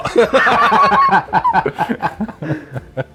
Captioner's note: both laugh